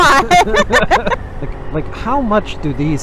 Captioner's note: laughing